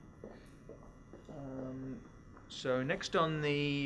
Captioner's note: footsteps